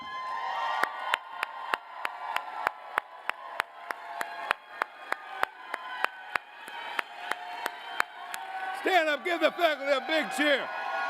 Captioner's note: cheers and applause